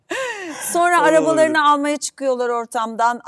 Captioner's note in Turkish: kahkaha